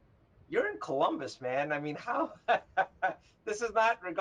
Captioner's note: laughs